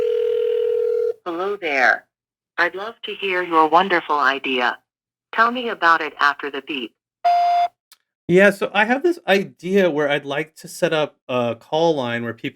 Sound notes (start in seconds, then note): 0.0 phone ringing; 7.2 phone beeps